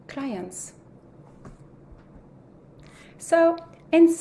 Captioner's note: white noise